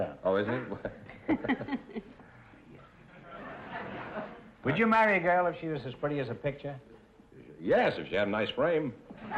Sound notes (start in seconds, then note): 0.6 chuckling